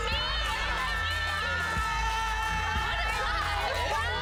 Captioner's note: Erica and guests screaming bye